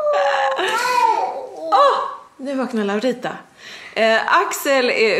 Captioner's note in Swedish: skriker till